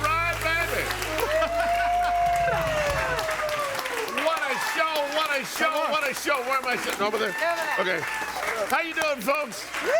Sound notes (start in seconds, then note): 1.3 audience cheering and applauding